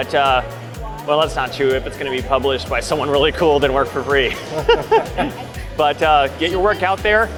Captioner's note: chuckle